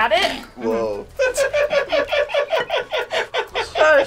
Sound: laughs

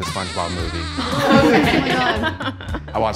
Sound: women laughing

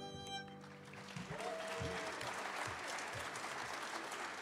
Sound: audience cheering

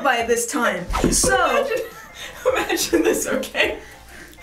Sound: giggling

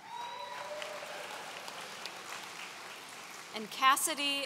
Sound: audience cheering

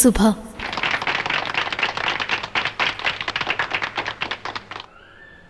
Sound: applause

